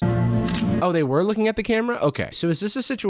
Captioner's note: shutter snaps